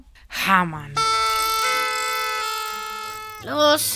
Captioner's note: noisemakers